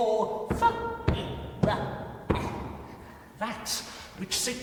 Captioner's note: bone tapping; creature stammering